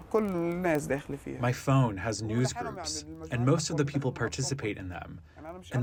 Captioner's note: through translator